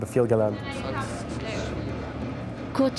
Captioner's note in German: Stimmengewirr